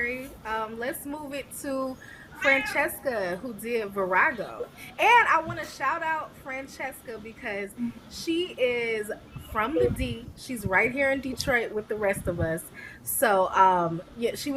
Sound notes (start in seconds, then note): 0.2 cat meowing; 6.2 cat meow